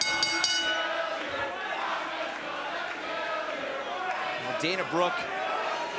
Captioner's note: bell ringing